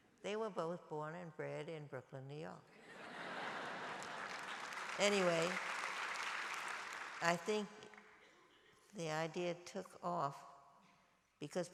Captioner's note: applause